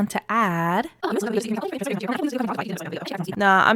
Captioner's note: starts talking very fast